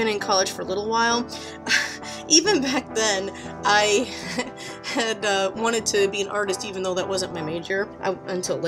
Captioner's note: laughs at self